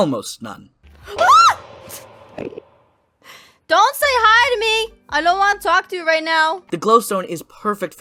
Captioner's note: screams